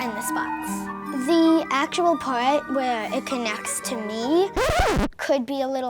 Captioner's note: zip